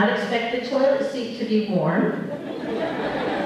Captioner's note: laughter